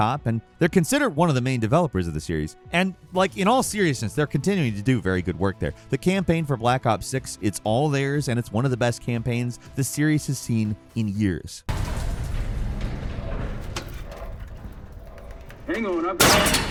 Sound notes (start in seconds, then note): 11.7 cavernous metallic clanking